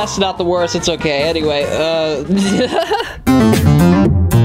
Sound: laughs; upbeat music

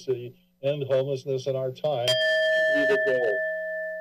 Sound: bell rings

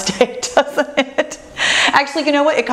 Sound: laughs

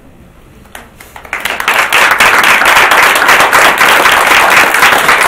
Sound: audience claps

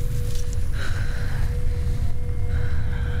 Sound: breathing heavily

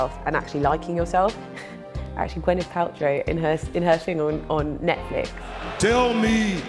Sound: laughs

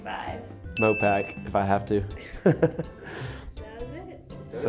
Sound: laughs

